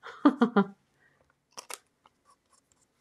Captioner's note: laughs